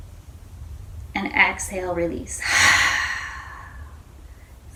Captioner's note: exhales